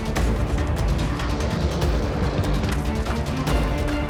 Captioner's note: lion growls